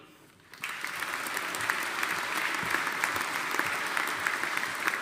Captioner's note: audience applauding